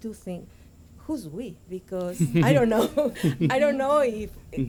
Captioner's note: laughter